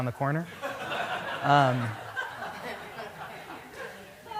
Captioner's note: laughter